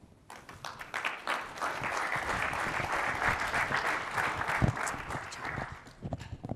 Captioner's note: applause